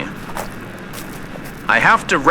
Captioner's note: walking through the field fx